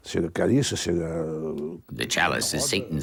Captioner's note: speaking in a foreign language